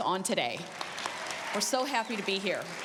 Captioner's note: applause